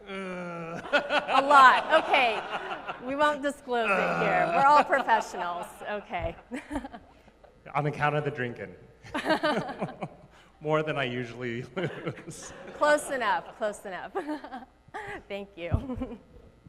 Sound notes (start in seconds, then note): 0.0 groans; 3.8 groans; 9.1 both laugh; 14.0 laughs